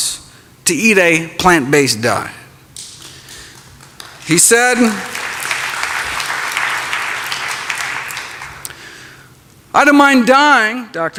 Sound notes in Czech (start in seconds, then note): 2.9 Potlesk